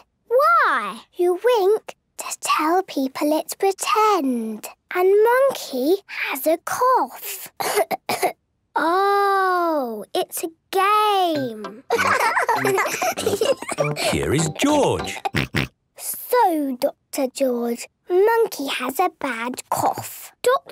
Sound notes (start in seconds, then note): 7.6 pretending to cough; 11.8 laughs; 15.4 snort